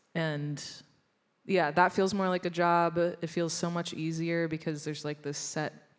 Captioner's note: none